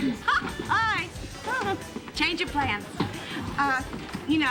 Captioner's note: giggles